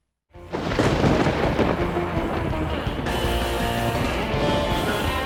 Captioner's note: thunder rumbles; uptempo rock music